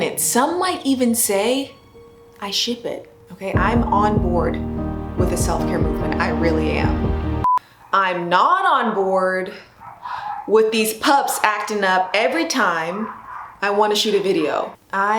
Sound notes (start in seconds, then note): 7.4 short beep; 9.7 dogs barking